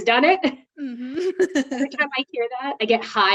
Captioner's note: both laughing